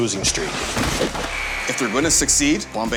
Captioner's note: whistle blowing